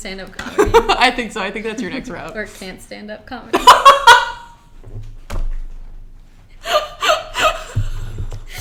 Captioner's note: laughing